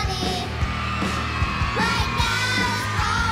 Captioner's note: girls cheering